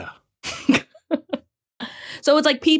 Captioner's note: cracks up